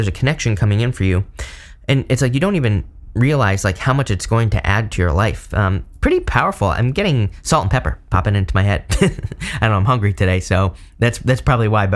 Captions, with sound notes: a connection coming in for you. And it's like you don't even realize like how much it's going to add to your life. Pretty powerful, I'm getting salt and pepper popping into my head. (chuckles) I don't know, I'm hungry today, so that's probably why.